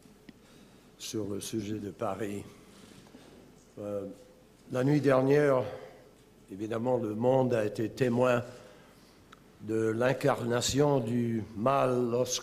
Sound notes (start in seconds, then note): 6.6 in French